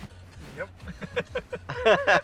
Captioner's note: laughs